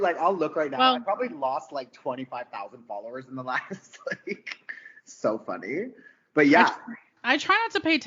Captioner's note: laughing